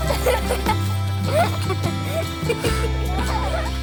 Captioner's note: laughing